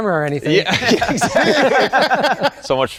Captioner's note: all laugh